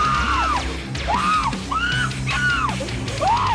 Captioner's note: prisoner screams; dramatic metal music